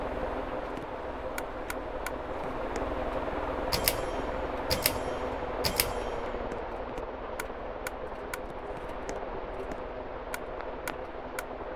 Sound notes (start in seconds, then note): 0.0 wind Noises; 0.0 loud buzzing noises; 0.2 other ceiling fan making noises; 2.9 loud buzzing noises; 3.0 other ceiling fan making noises; 3.1 wind Noises; 3.2 loud buzzing noises; 3.2 other ceiling fan making noises; 3.2 wind Noises; 3.8 loud buzzing noises; 3.8 other ceiling fan making noises; 3.8 pull chain noises